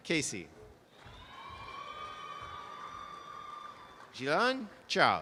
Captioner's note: audience applause